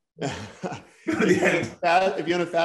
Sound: laughter

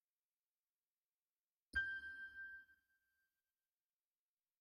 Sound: ding

